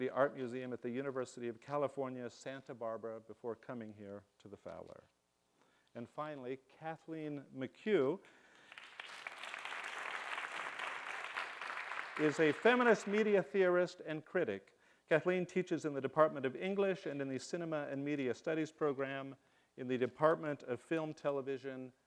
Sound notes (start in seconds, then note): 8.5 applause